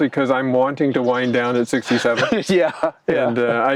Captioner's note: chuckles